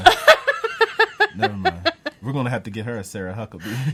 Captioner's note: laughs